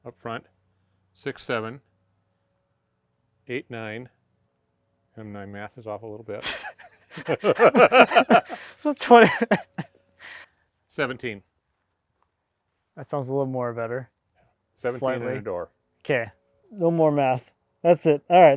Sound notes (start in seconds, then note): 7.1 men laughing; 7.1 snorts